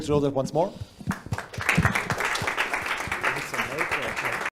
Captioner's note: audience applauds